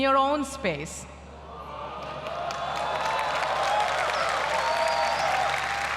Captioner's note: applause